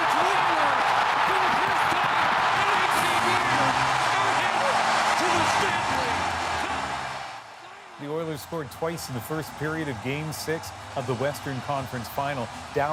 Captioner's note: cheers and Applause